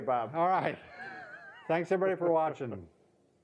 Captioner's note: laughing